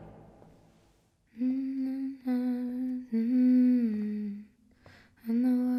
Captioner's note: humming